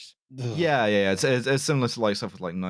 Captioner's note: verbal shudder